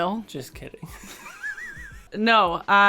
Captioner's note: chuckles